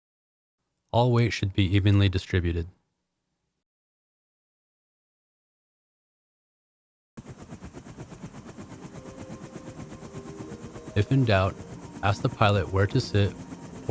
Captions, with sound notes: All weight should be evenly distributed. (helicopter whirring) (pensive music) If in doubt, ask the pilot where to sit